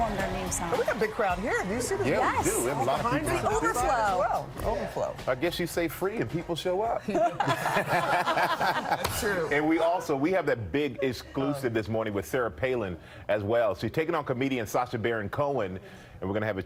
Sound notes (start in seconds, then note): 10.3 laughter